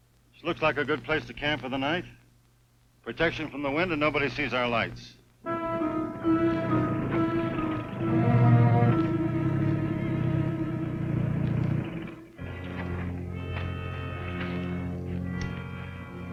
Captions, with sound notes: - Looks like a good place to camp for the night, protection from the wind, and nobody sees our lights. (dramatic music) (car engine revving) (dramatic music)